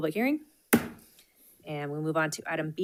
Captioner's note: gavel thuds